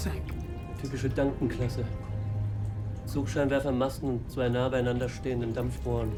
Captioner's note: speaking in foreign language